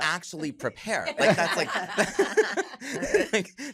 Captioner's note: laughter